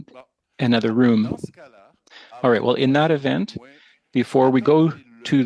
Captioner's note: speaking French